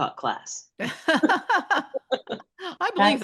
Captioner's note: laughter